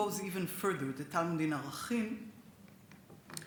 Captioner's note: speaks Hebrew